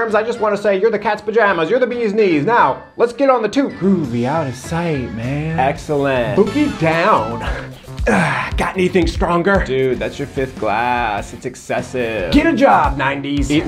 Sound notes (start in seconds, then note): 7.3 exhales